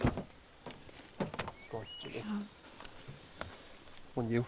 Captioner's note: door clicking